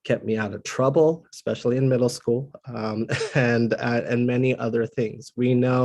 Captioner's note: laugh